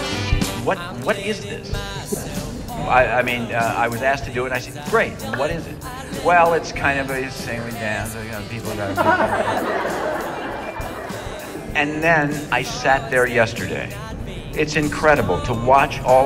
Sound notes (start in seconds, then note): 11.7 laughter